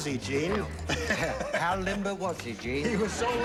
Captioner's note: impersonates oliver hardy